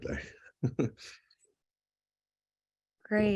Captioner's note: chuckle